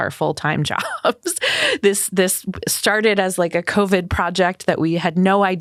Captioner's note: laughs